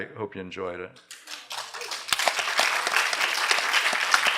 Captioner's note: applause